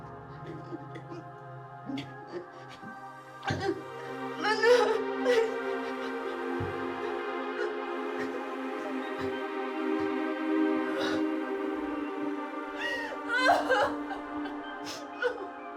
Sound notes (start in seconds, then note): 4.4 Mia crying; 5.3 gentle music; 12.7 crying